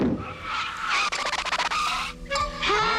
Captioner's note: screech